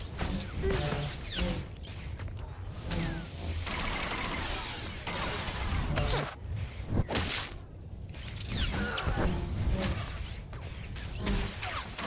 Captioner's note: gun firing